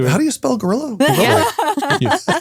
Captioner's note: laughing